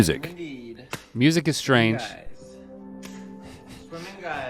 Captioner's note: hands slapping